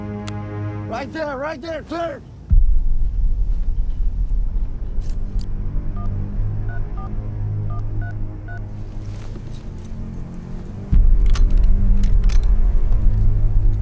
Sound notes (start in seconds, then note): 6.3 telephone beeping; 10.6 suspenseful music